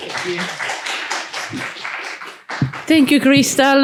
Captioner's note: applause